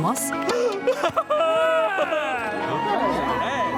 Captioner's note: crying joyfully